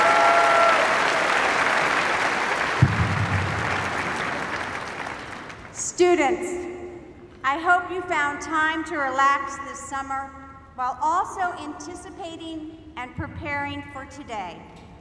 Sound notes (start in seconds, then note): 3.3 cheers and applause